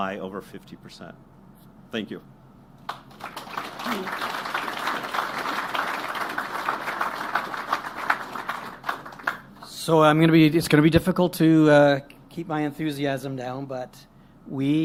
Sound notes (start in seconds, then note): 7.0 applause